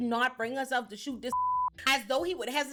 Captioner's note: beep